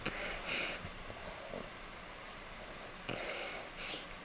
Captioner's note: breathing